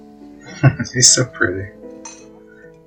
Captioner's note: chuckling